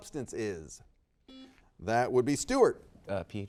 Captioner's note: buzzer beeps